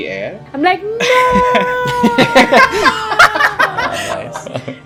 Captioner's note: laughter